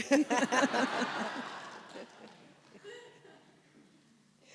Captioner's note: audience laughs